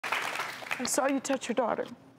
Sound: applauding

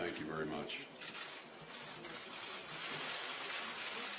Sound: cameras clicking

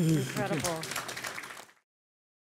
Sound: applause

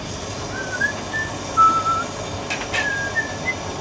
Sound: whistling

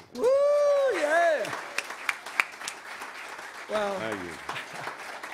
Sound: audience applauds

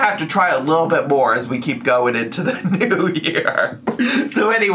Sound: laughs

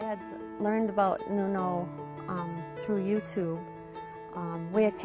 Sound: voiceover

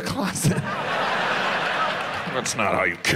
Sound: audience laughs

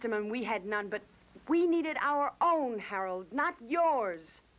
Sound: none

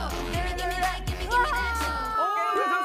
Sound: agh!

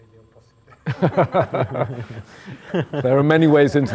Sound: laughter

